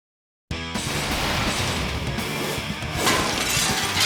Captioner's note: logo whooshes; upbeat music; glass shatters